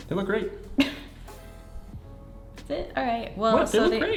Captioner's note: laughing